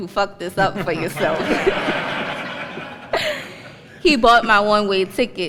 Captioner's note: laughter